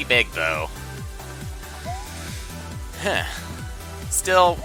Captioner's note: breathing